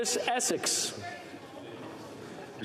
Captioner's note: speaking French